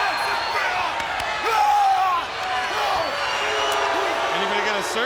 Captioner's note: Bam Bam and Goldberg shouting